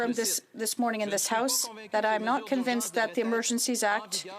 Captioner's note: speaking French